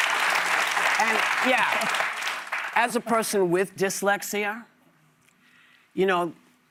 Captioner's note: cheers and applause